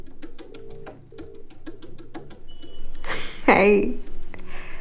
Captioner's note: phone calling